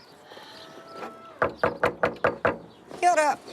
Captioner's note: knock knock